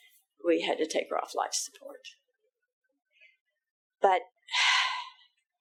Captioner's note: sighing